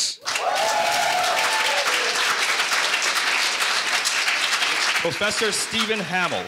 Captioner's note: audience cheering and applauding